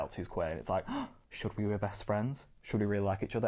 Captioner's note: gasps